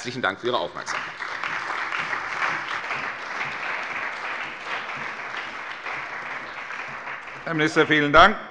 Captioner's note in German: Beifall bei der CDU und dem BÜNDNIS 90/DIE GRÜNEN